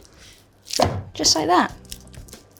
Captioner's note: Bella laughing; dough plopping